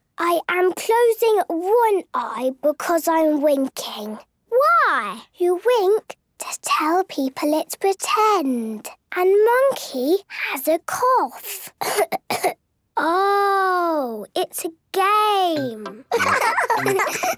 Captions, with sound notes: - I am closing one eye because I am winking. - Why? - You wink to tell people it's pretend. And Monkey has a cough! (pretending to cough) - Oh! It's a game! (laughs)